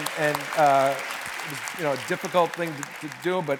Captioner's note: cheers and applause